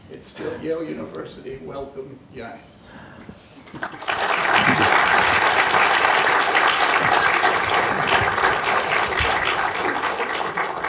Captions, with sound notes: it's the Yale University, welcome Yannis. (applause)